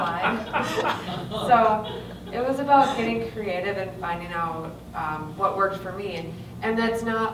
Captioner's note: laughter